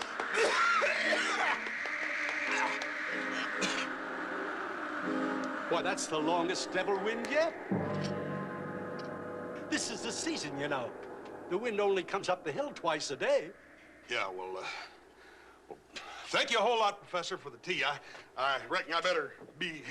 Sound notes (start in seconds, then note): 0.2 coughing; 4.1 wind continues